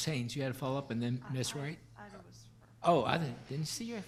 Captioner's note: mumbles